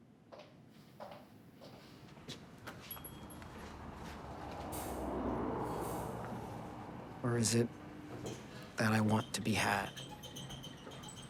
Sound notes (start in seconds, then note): 2.8 entry bell ringing